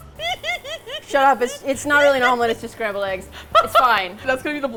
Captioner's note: giggles with delight; laughs